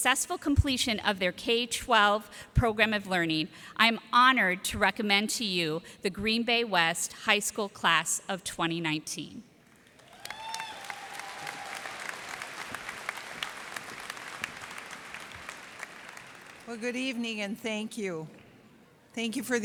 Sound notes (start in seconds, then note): 9.8 cheers and applause